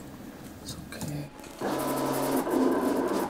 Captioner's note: whirring